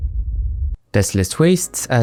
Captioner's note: nuclear Explosion